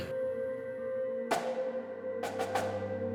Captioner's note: clears throat